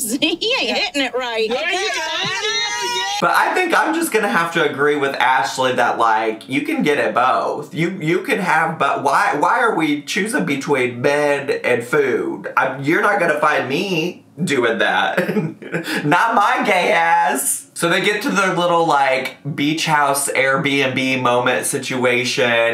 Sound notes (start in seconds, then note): 1.4 group laughs; 14.9 laughs